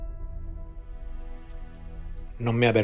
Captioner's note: all with mexican accent